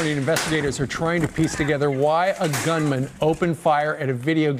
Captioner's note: gunfire